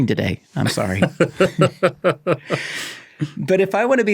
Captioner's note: both laughing